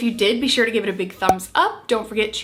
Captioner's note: thumb popping